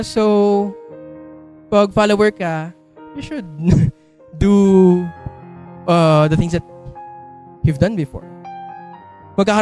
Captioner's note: chuckles